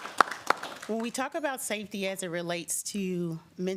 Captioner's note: applause